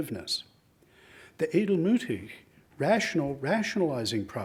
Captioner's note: speaks in foreign language